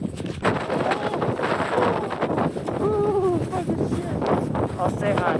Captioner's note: wind